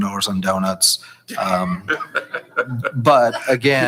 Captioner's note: chuckling